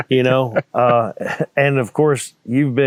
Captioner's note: laughing